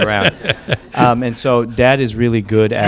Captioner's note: laughter